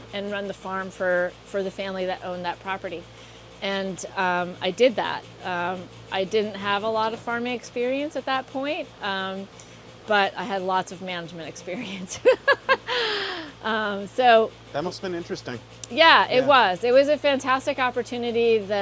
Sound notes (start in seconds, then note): 11.8 laughs